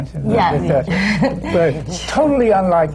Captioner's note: laughs